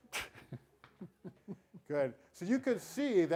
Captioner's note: chuckles